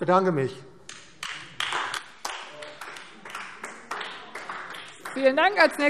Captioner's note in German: Beifall AfD